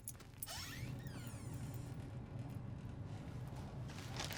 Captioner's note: door creaking